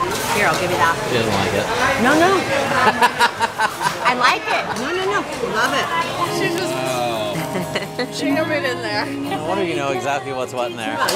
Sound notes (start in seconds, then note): 2.7 laughter